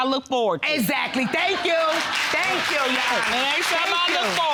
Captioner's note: audience applauding